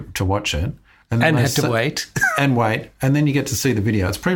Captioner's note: laughs